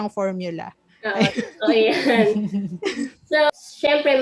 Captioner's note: laughs